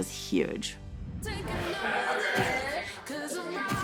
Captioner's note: chatter